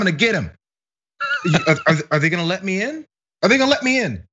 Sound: laugh

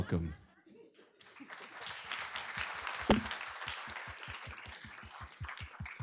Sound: applause

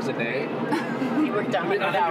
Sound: laughing

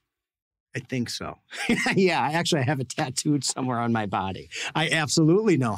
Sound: laughs

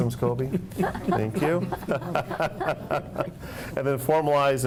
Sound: laughter

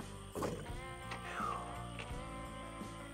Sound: sighs

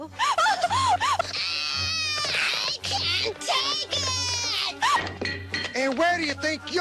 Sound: cries; screams

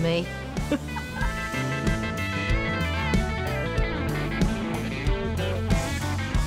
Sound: upbeat country music; laughs

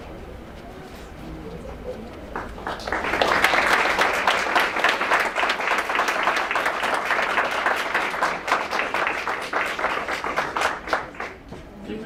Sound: applause

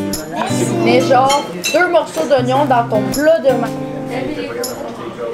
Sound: woman speaking French

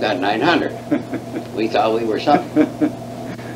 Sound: laughs

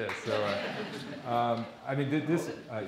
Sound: audience laughing

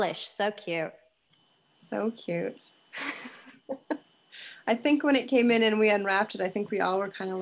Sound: laughter

